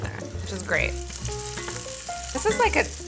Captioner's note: bacon sizzling